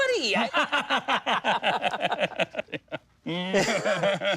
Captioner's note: laughs